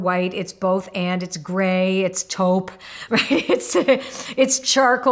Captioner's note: laughing